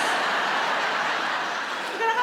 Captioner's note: audience laughs